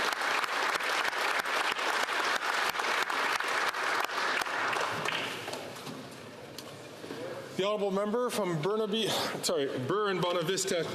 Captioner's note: applause